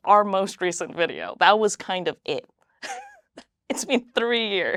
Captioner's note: laughs